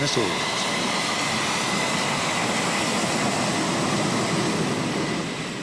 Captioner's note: jet engine roaring